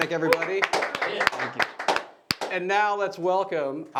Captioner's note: applauding